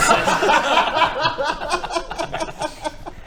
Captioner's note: giggles